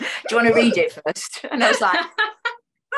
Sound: laughs; laughter

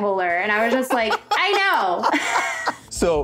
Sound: laughter

